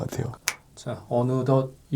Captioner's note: snap!